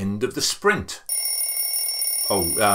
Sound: alarm ringing

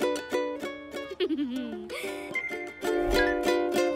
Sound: chuckles

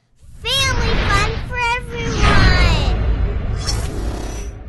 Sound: voiceover

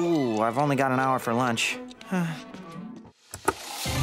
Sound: sighing

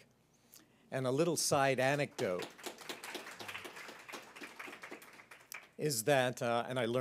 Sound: applause

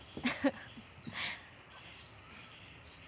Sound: laughter

